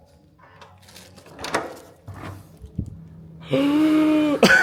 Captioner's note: doorknob creaking